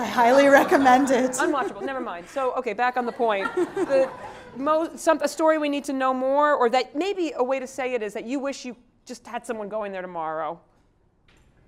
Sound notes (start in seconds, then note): 3.0 laugh